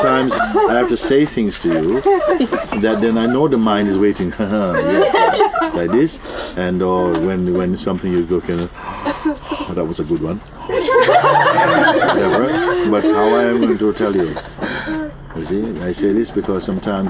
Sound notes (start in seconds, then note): 9.3 yawns; 10.6 laughter; 11.3 continues yawning